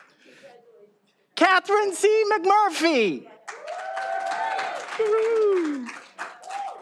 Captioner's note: all applauding